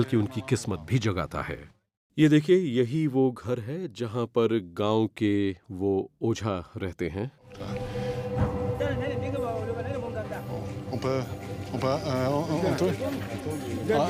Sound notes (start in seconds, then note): 7.8 man speaks foreign language; 9.9 speaks foreign language